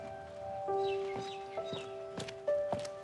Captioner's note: bird chirps; footsteps approach